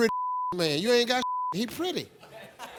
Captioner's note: beep